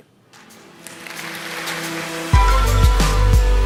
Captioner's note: applause